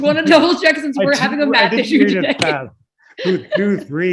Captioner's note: laughter